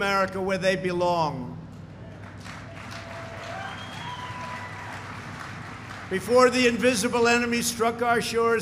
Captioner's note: applause